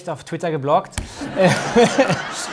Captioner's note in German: Lachen